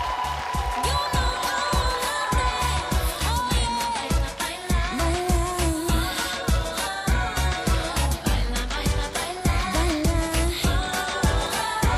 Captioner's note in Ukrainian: оплески